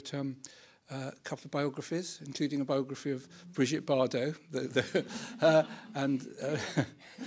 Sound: laughs

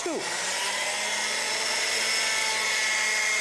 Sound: loud whirling noise

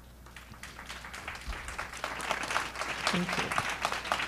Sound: applause

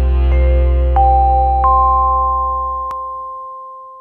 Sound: chiming bells

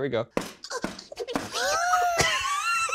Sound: knuckles rapping; both laughing

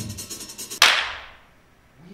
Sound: loud clap

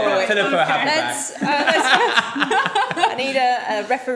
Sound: group laughing

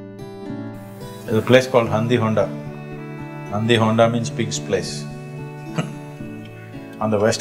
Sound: laughs

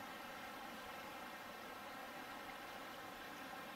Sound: burbling water

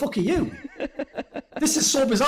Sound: laughs

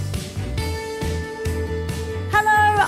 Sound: none

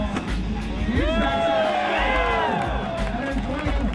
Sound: crowd cheers

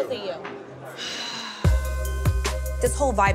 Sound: exhales

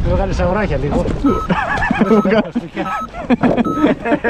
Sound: laughs

